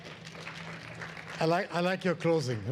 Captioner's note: audience applauds